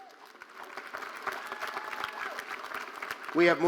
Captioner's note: audience applauding